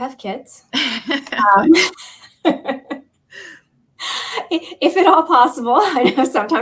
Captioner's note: laughter